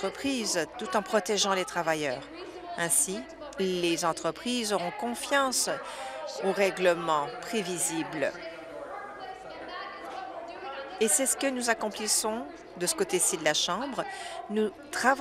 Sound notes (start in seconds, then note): none